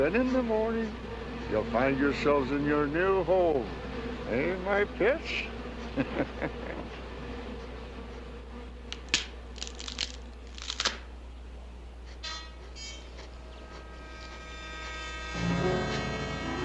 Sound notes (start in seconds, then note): 6.9 chuckling; 7.1 cracking; 13.8 dramatic music